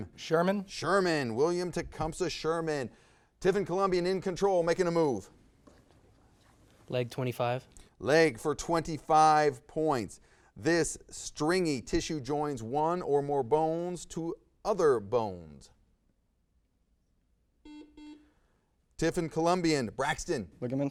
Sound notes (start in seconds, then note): 17.6 buzzer buzzes